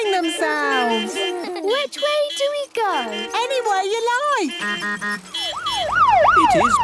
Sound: laughter; honking, siren wailing

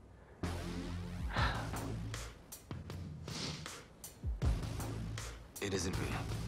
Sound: sighs, sniffles

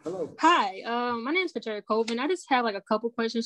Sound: calm Voice

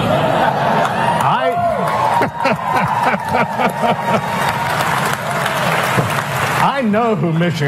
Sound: laughter

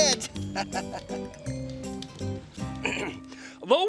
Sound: laughing

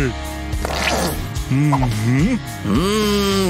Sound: sniffs

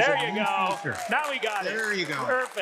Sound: audience applauding

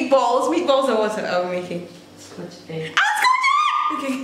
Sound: squeals

